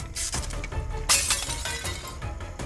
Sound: bowl shatters

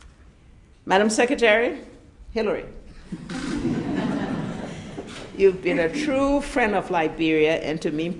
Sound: laughter

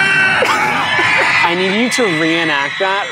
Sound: laughing

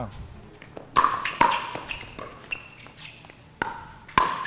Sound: ball bouncing

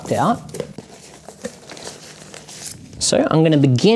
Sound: box rustling

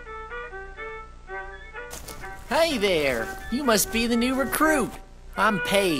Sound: walking

